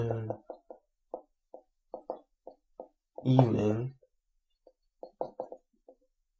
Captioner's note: sound of marker on board